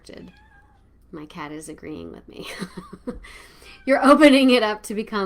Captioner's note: chuckles